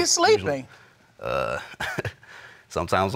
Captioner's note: chuckles